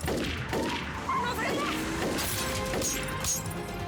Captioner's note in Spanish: ruido al romper los vidrios